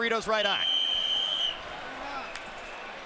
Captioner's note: whistle blows